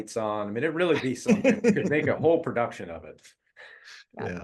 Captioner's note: laugh